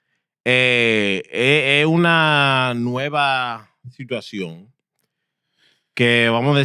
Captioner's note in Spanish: Hablando en idioma extranjero